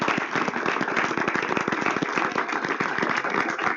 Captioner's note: applause